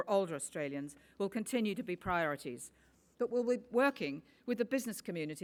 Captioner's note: none